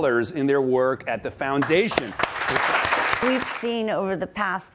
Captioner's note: audience applauds